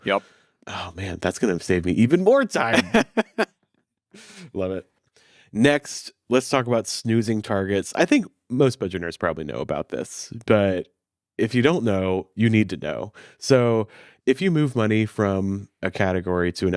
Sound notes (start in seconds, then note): 2.7 chuckles